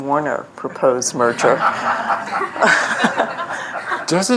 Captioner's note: laughter